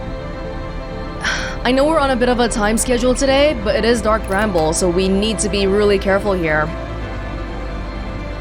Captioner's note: sigh